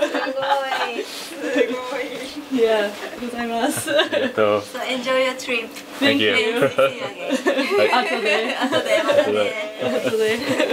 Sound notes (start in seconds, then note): 2.8 laughs